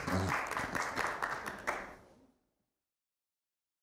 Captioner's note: applause